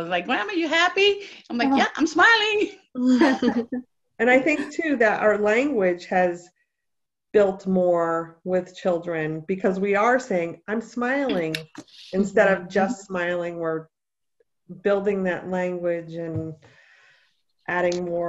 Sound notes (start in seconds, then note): 3.1 laughter